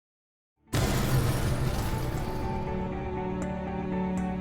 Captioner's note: explosion booming; gentle music